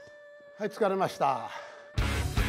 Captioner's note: speaking japanese